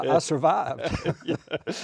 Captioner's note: laughter